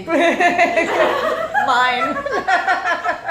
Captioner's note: laughing